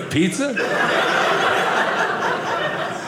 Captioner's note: audience laughing